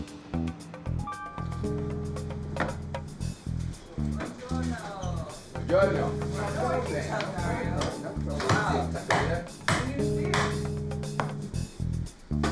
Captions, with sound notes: - Good morning. - Good morning. (sounds of restaurant patrons) (chopping board banging)